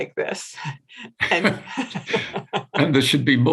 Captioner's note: both laughing